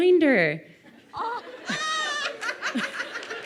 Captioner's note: laughing